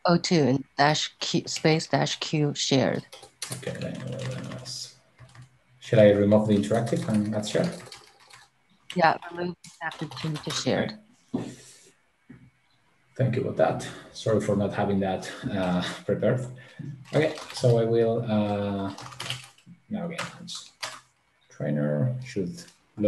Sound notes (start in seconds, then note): 8.5 keyboard clattering; 16.8 keyboard clattering